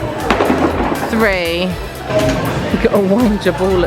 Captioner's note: ball clattering